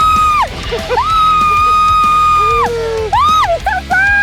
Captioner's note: crazy excited